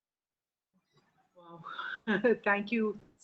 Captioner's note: laughs